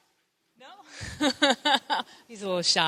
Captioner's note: laughs